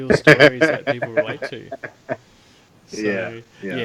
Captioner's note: laughter